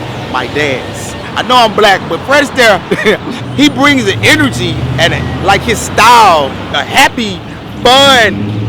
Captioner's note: chuckles